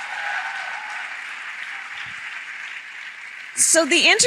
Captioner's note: applause